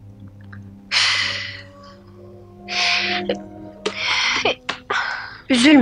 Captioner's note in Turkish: Sesli sigara dumanı üfleme